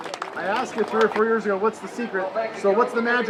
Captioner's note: applause